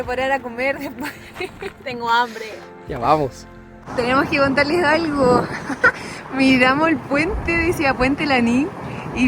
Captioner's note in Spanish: risas